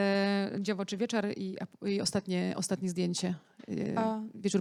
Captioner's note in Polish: białoruski